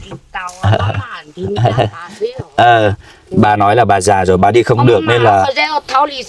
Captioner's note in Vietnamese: tiếng cười